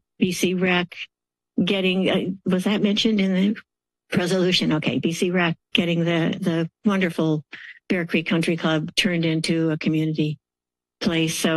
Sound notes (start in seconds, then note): none